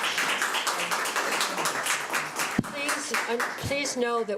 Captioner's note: applause